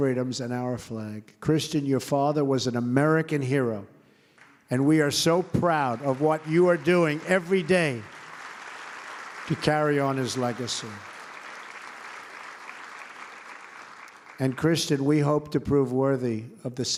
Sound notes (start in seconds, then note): 11.6 applause